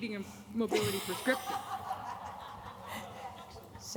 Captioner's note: laughter